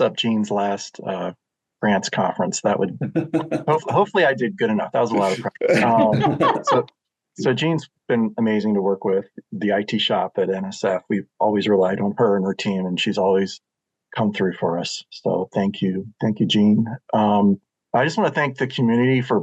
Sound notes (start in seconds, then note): 5.0 laughter